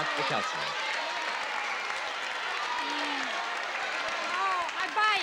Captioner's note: audience yelling